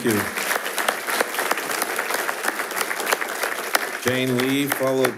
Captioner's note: attendees applauding